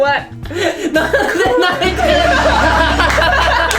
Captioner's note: laughs